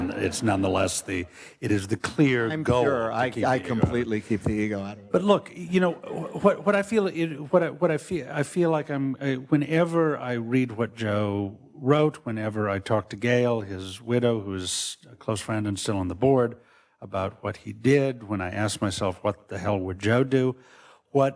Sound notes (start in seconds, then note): 5.7 audience laughs